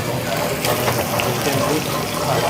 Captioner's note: sizzling